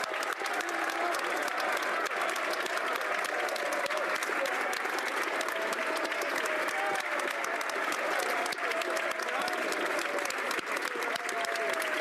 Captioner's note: applause